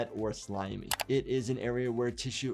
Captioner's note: keyboard keys clicking